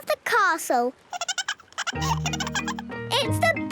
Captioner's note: giggling